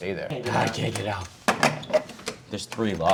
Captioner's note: lock clanking